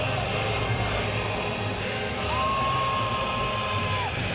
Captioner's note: crowd cheering